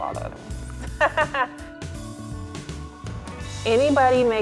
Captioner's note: laughs